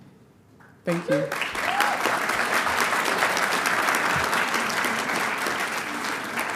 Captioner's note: audience applauding